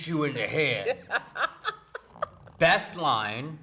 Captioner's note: laughing